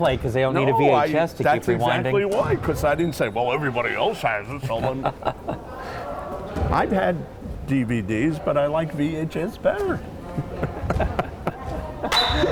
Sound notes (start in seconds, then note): 4.5 laughing; 10.3 both laughing